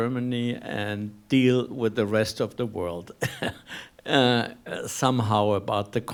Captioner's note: laughing